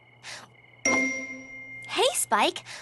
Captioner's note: ding!